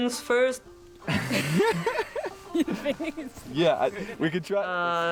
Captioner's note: both laughing